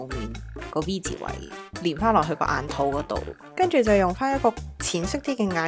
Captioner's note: Korean